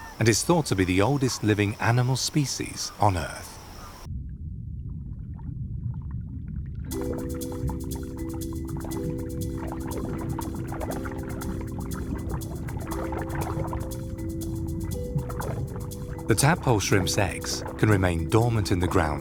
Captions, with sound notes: and is thought to be the oldest animal species on Earth. (gentle music) (water sloshes) The tadpole shrimp's eggs can remain dormant in the ground